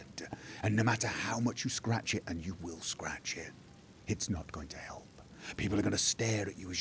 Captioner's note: hushed